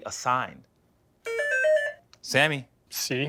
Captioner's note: beeping